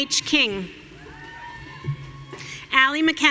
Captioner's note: audience cheering